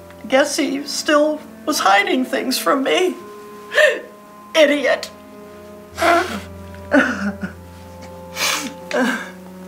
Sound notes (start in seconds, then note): 3.7 sobs; 5.8 dramatic music